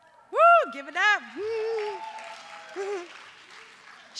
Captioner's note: cheers